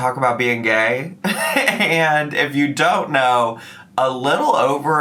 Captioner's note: laughs